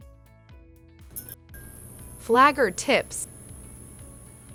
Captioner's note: light bulb flickering on